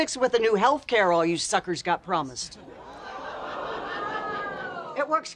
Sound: studio audience

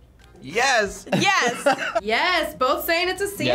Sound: laughs

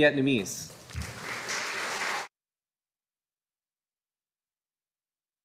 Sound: audience applauding

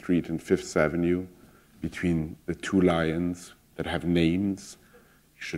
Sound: none

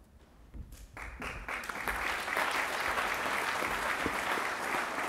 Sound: applause

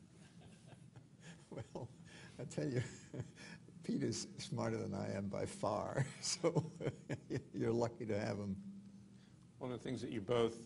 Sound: laughing

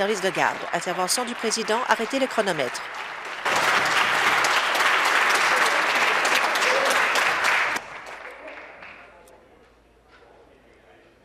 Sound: applause

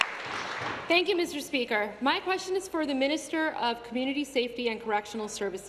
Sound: applause

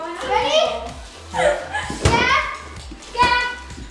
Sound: laughing

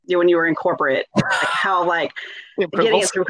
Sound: laughs

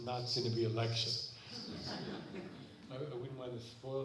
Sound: laughter

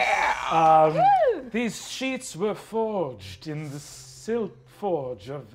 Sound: in fancy elf accent

